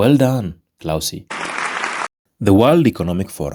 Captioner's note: clapping